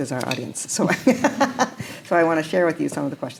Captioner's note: chuckles